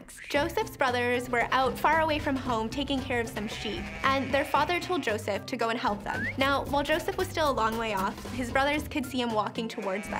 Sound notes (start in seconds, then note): 3.1 sheep baaing